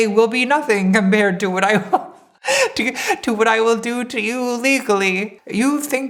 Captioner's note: laughing